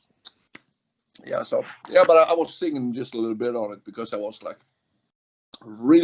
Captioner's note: laughs